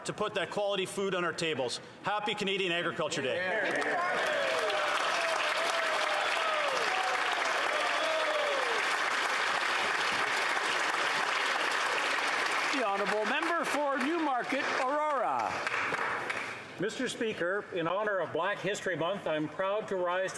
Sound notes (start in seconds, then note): 11.5 some Applause